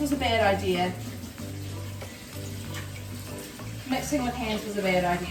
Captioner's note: water running